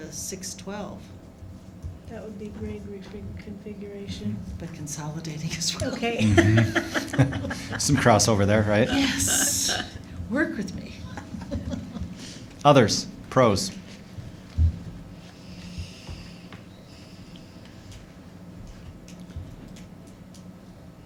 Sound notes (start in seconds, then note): 6.2 laughter